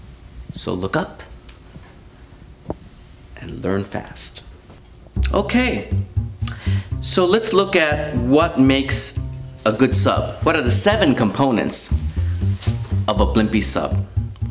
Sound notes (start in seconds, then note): none